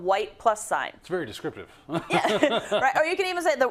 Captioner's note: laugh